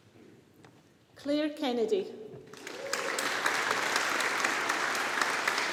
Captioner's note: audience applauding